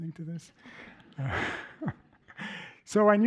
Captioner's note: laughter